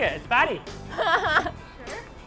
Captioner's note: laughing